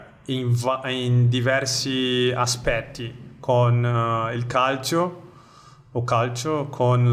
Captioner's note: Venetian accent